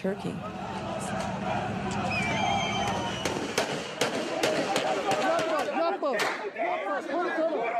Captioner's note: yelling and gunfire